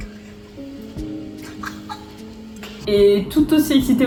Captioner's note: fangirl squeaks again